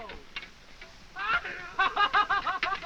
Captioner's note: laughing